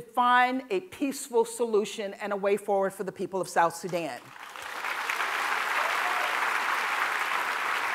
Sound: applause

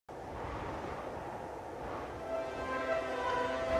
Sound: wind blowing

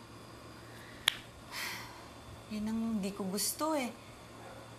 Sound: sighs

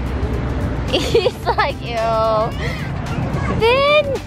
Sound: laughing

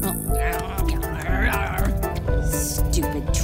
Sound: chews and grumbles

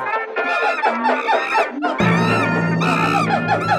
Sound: lighthearted music; monkey screams; drum rolls

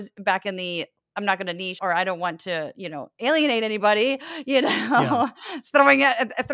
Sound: laugh

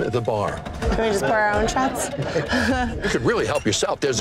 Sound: chuckling

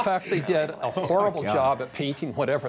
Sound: laughs

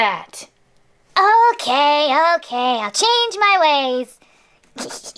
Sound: evil laugh

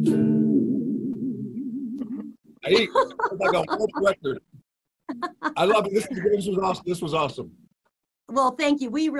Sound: laughing

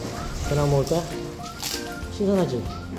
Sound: crunchy

